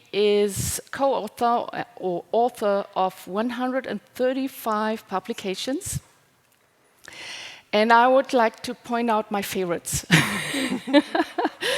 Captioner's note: laughing